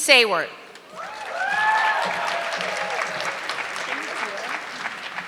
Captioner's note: audience clapping